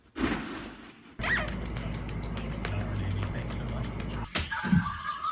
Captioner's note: toy squeaks